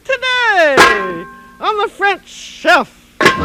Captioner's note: pot lids bang